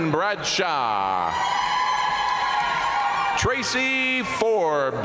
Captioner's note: audience cheering and applauding